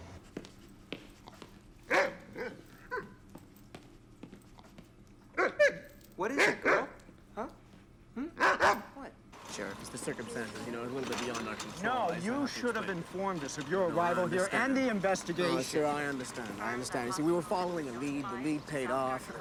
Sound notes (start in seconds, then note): 1.8 dog barking